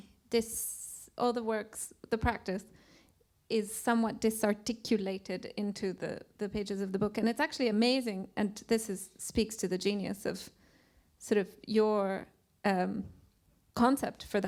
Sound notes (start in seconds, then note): none